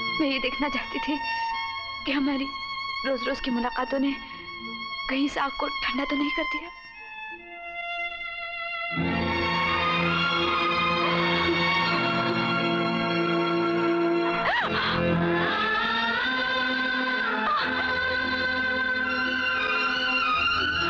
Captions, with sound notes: I wanted to see whether you have got bored... ...of our daily meetings. (Groans) (Groans)